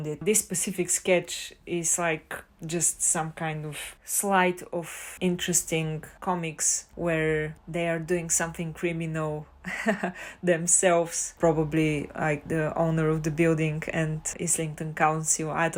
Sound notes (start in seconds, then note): 9.6 haha